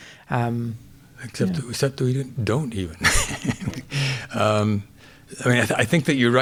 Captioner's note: chuckles